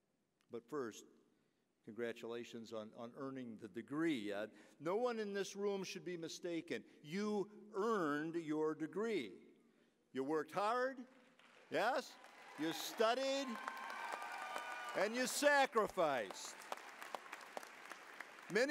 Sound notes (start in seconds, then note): 11.3 applause, cheering; 17.3 applause